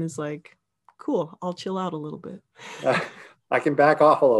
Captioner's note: laughing; laughs